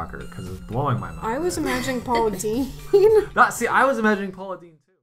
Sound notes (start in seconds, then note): 1.6 laughs